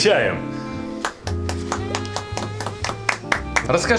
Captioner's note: applause